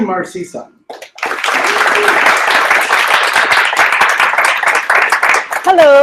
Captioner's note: applause